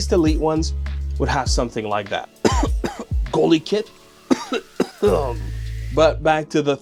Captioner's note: cough cough